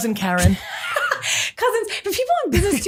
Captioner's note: laughing